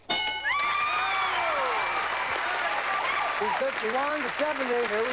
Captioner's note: cheering